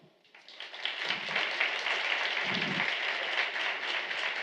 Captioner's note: applause